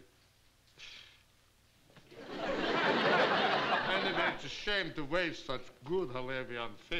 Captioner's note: scoffs